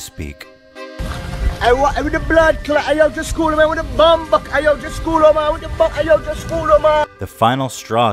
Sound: intense babbling

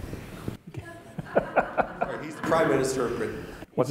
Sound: laugh

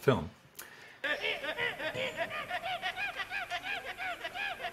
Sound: men screeching

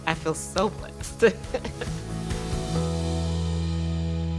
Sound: laughs

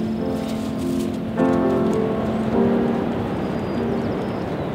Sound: ocean rumbling; bird singing

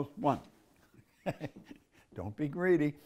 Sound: Bob laughs

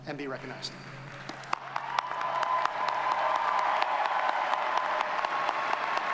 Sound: audience cheers and applauds

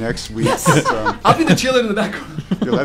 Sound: laughter

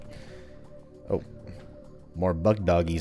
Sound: distant Bugdogs growling

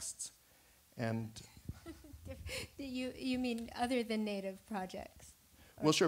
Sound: laughing

